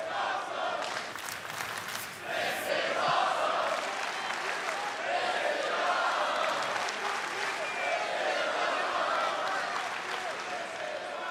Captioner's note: fans chanting